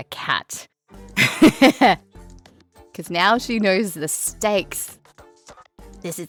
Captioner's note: chuckles